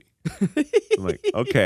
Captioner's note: laughs